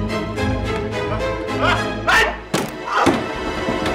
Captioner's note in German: Schreie, Geräusche